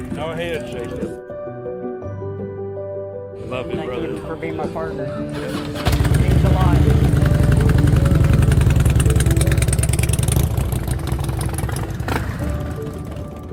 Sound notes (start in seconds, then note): 7.4 motorcycle revving; 12.7 tranquil music